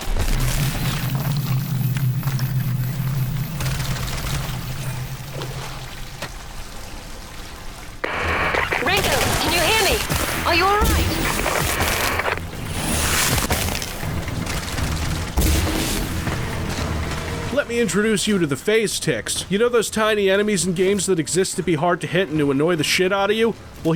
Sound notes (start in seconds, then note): 12.4 squishy, bug-y sounds, searing acid & goo sounds; 15.2 sci-fi blast sound coming out of the TMD